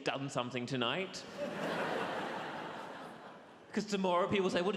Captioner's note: audience laughs